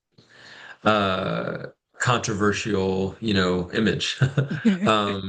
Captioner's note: brief laughter